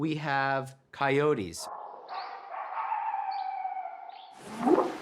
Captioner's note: barking; whooping sound